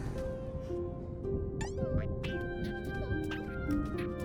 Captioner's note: caterpillar noises